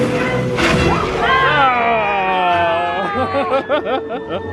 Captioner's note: chef speaking in foreign language; guests exclaim; laughs